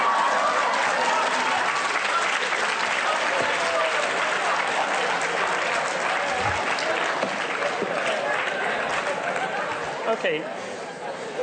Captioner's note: applause